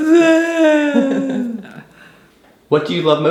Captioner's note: mom laughing